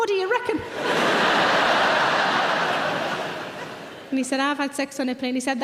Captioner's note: audience laughter